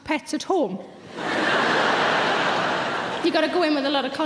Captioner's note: laughing